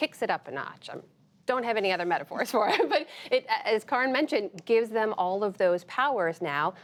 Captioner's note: laughter